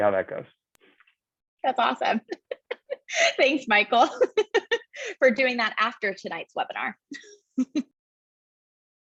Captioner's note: laugh